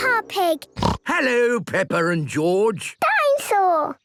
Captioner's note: snorts